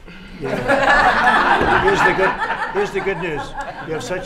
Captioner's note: laughter